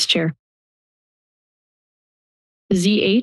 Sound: silence

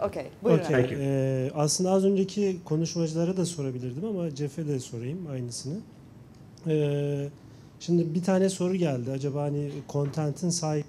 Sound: speaking turkish

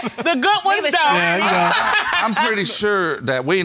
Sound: laughs

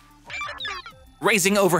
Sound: digital sounds

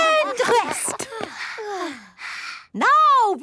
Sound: panting

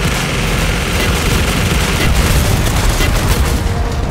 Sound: gunfire

